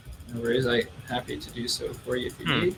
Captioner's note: clicking